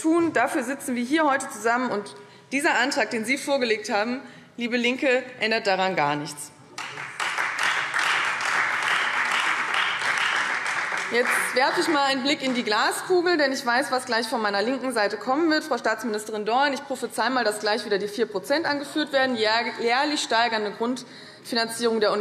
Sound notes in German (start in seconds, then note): 6.7 Beifall Freie Demokraten